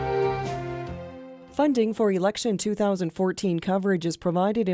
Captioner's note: voiceover